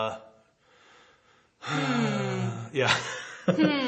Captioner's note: sighs